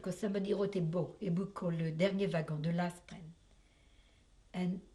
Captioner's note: french